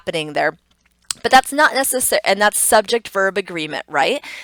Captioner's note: tongue clicks